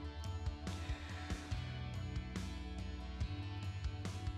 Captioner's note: exhales